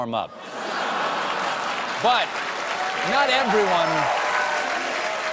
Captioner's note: laughter